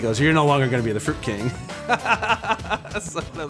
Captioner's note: laughing